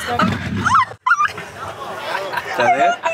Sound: squeals

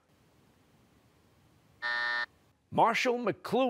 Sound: buzzer

